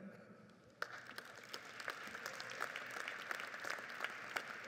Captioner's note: audience applauds